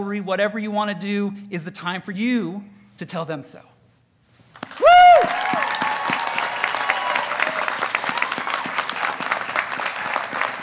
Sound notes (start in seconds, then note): 4.7 graduands cheering